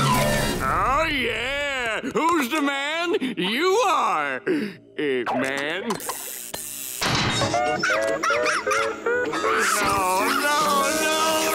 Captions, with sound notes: Oh, yeah. Who's the man? You are... eh, man. [barking] Oh, no, no!